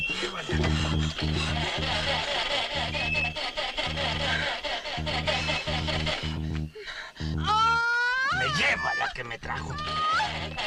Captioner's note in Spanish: Respiración agitada; Sonido del motor; Gritos; Sonido del motor